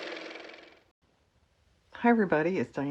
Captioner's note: car motor